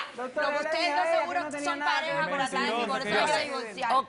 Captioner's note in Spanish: Hablan al unísono